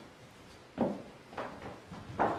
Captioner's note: knocking